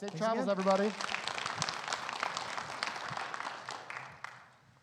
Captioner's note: audience applause